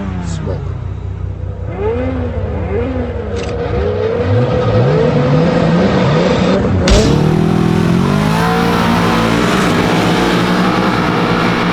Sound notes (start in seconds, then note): 4.5 engines revving; 6.9 gate dropping; 8.0 engines roaring